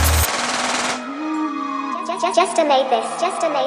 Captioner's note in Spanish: sirenas policiales